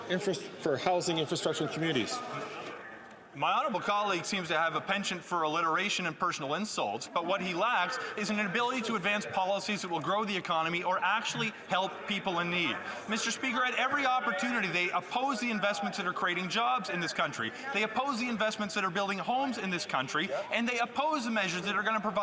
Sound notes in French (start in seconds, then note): 9.8 voix de l'interprète